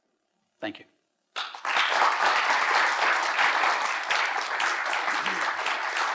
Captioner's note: applause